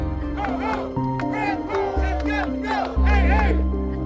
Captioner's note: protestors chanting